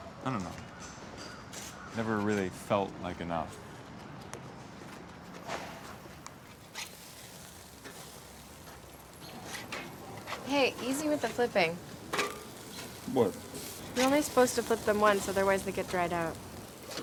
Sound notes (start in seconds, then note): 6.5 sizzling on grill